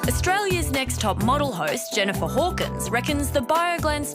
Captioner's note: none